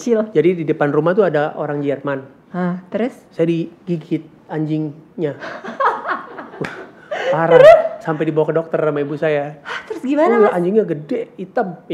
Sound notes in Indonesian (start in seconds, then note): 5.4 tertawa